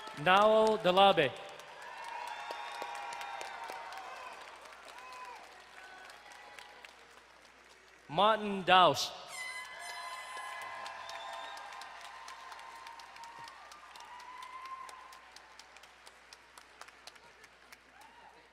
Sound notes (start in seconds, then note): 0.0 crowd cheering and applauding; 2.0 crowd cheering and applauding; 9.2 crowd cheering and horn blaring